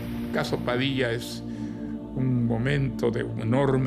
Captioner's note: speaking Spanish